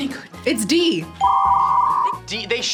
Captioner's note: modem screeches